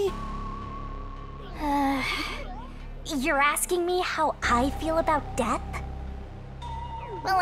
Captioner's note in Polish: wzdycha